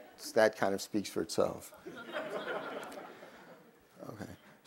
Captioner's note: crowd laughs